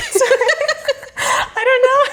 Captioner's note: both laughing